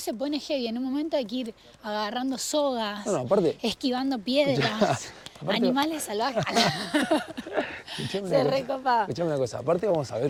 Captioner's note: laughs